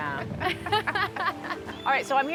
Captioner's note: both laugh